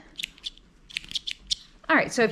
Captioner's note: scissors snipping